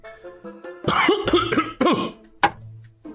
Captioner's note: coughing violently